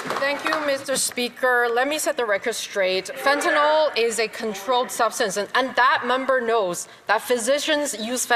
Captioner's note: some Applause